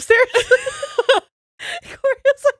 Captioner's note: both laughs